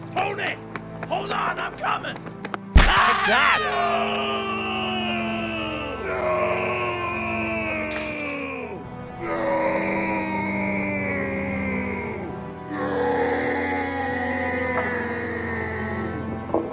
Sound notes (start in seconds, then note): 2.7 cracking and screaming; 12.8 sad music